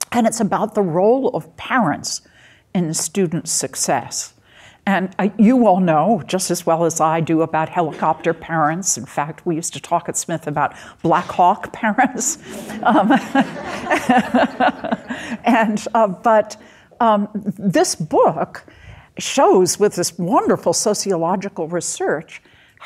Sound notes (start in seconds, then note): 12.2 audience laughing; 12.2 chuckles